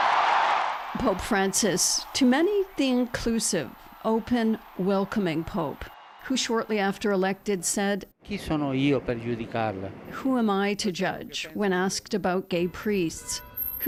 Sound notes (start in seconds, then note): 4.1 cheers and Applause